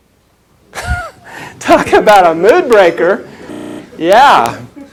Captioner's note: chuckles